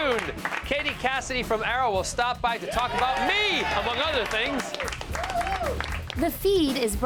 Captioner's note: applause